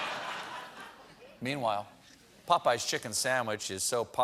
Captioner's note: laughter